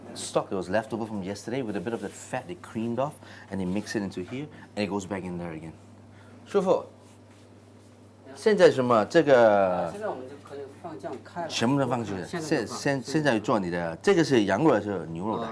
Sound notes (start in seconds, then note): 8.4 speaking Chinese